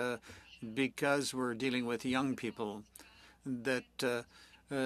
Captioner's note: speaking French